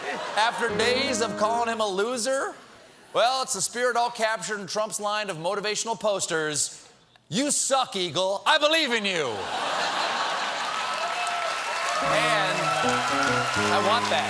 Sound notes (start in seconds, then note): 9.4 laughter; 9.8 cheers and applause; 10.4 piano riff